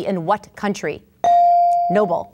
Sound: ding

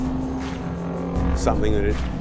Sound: engine revving

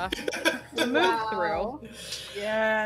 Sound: laughter

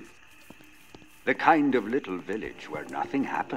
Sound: radio Announcer

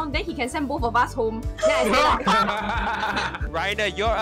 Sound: all laughing

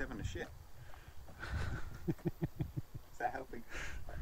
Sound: laughs

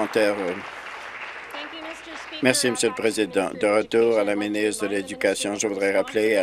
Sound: applause

